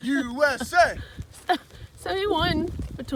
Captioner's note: laughing